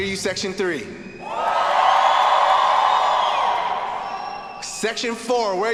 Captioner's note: students cheering